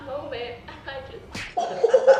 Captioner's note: punch